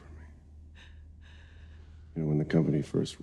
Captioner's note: Ashley's breath shuddering